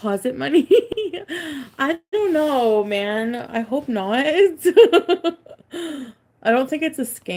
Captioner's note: laughs